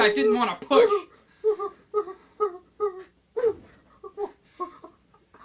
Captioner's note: nervous sounds